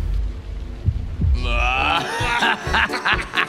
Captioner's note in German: Inbrünstiges Lachen, muntere Musik